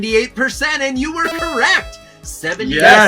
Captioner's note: machine buzzing